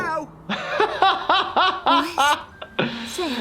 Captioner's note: laughing